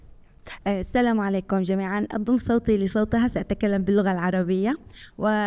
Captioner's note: speaking foreign language